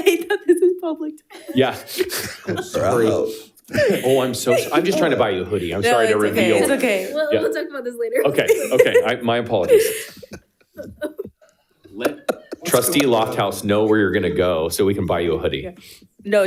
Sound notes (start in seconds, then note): 1.3 laughs; 10.3 all laughing